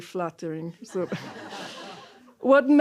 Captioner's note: laughter